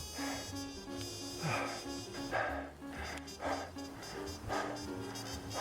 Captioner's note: panting for breath